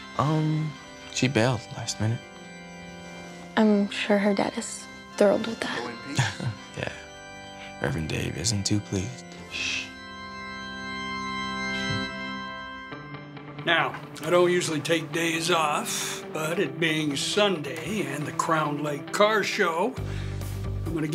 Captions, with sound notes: - She bailed last minute. - I'm sure her dad is thrilled with that. - (laughs) Yeah. Reverend Dave isn't too pleased. - Shh. (bright church music) (upbeat music) - Now, I don't usually take days off, but it being Sunday and the Crown Light Car Show,